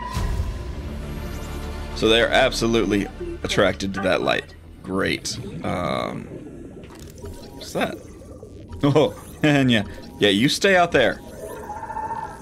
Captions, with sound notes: So they are absolutely attracted to that light. Great, um. What is that? (making scared noises with my mouth) Yeah, you stay out there!